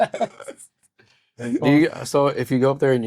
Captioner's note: laughing